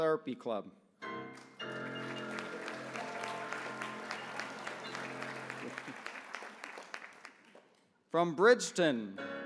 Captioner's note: applause